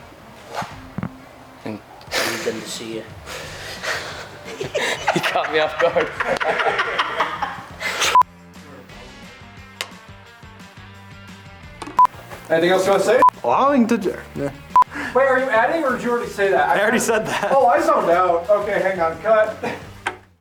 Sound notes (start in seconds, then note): 3.3 both laughing; 9.0 upbeat music continues